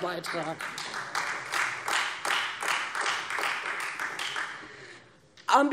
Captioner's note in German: Heiterkeit und Beifall